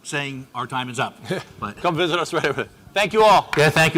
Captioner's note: laughs